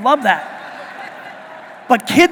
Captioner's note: audience laughing